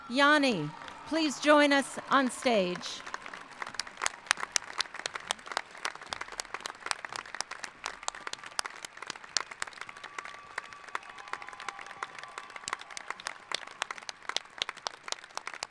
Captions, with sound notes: Yani, please join us on stage. (applauding)